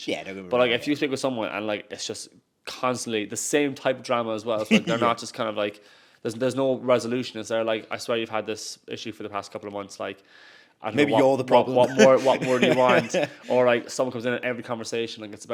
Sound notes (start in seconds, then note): 4.6 host chuckles; 11.6 chuckles